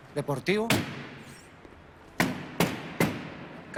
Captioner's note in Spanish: Golpes